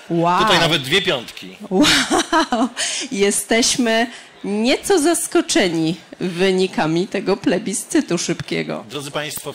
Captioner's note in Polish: śmiech